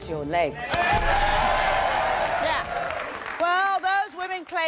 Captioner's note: clapping and cheering